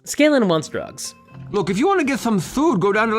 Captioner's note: slurred